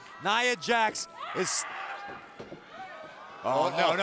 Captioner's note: Asuka screams